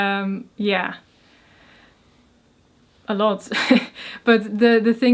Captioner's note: chuckles